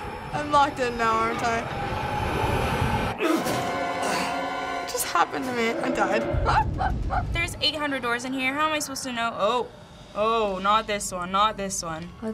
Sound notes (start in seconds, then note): 3.0 horror music; 3.2 grunts; 6.4 laughs